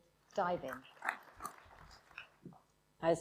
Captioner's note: applause